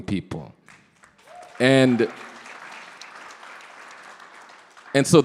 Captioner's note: audience clapping